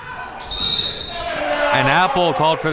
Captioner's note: whistle blows